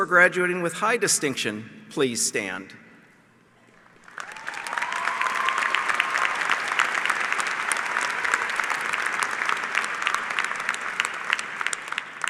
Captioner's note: applause